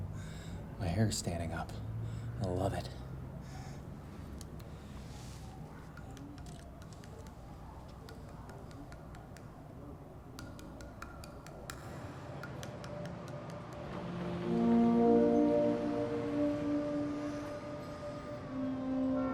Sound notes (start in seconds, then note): 3.7 siren wailing; 6.3 camera clicking; 8.6 soft tapping; 14.4 somber instrumental music